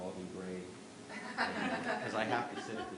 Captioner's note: laughter